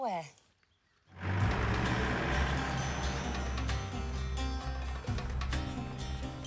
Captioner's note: engine rumbling; upbeat music